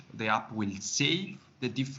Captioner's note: none